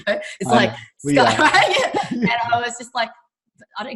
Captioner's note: laughing